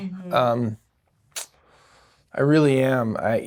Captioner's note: smacks lips